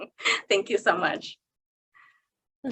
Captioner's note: chuckling